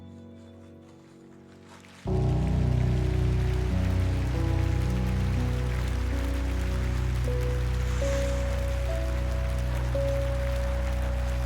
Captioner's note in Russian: ликование